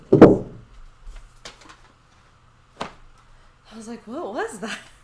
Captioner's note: bucket thudding